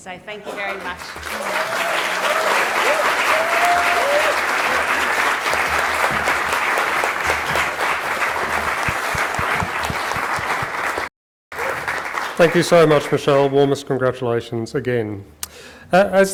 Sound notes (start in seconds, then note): 4.5 applause